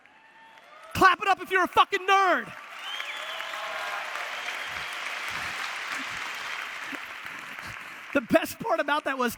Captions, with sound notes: Clap it up if you're a fucking nerd. (audience applause and cheers) The best part about that